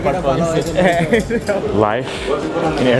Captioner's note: laughs